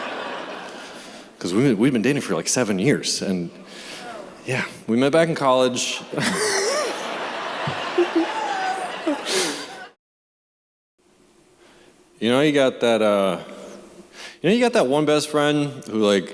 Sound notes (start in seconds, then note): 6.0 laughter